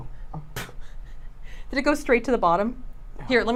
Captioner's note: laughs